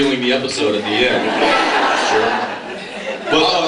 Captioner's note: laughs